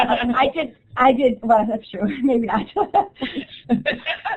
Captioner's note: laughs